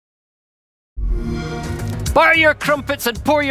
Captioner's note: xbox sound